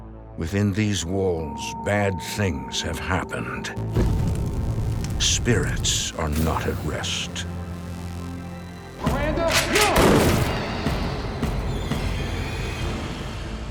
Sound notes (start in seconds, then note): 3.9 fire ignites; 9.4 gunshot; 11.1 dramatic music